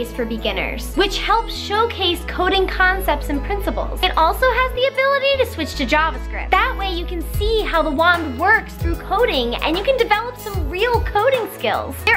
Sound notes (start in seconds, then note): none